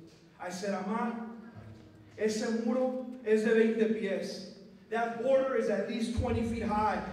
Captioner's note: non-english speech